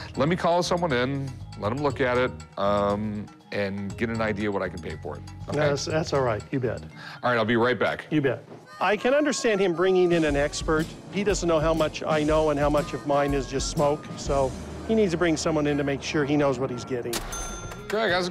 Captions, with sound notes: Let me call someone in, let them look at it and get an idea what I can pay for it, OK? That's all right. You bet. All right, I'll be right back. You bet. I can understand him bringing in an expert. He doesn't know how much I know and how much of mine is just smoke, so he needs to bring someone in to make sure he knows what he's getting. [cash register chime]